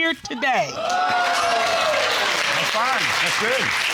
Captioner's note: audience cheering